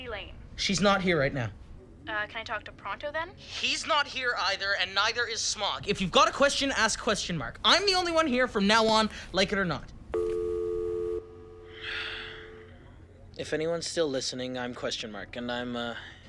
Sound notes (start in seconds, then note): 10.1 dial tone; 11.6 Robbie sighs